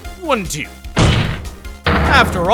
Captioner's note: slam